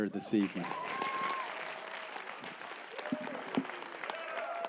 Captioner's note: applause